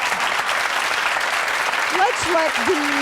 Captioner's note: cheering